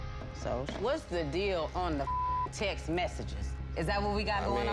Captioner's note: tense music; beep